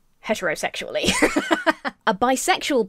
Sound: laughs

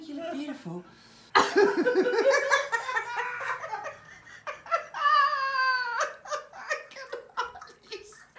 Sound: lots of laughing

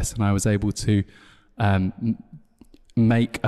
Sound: none

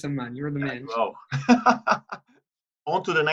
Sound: laughter

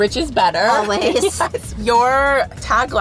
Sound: laughing

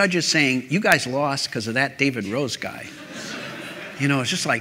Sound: laughter

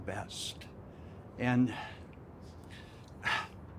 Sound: chokes

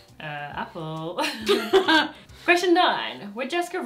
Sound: both laugh

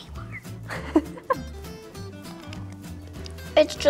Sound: interviewer chuckles

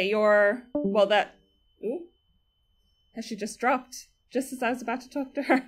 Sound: discord noise

